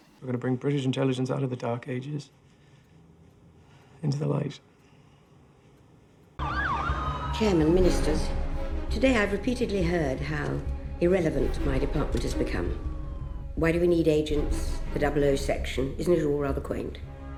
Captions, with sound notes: We're going to bring British Intelligence out of the Dark Ages... into the light. [Sirens] Chairman, Ministers, Today, I've repeatedly heard how irrelevant my department has become. Why do we need agents? The 00 section? Isn't it all rather quaint?